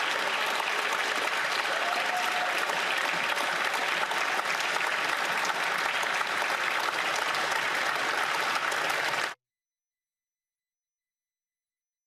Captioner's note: cheering and Applause